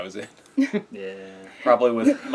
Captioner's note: laugh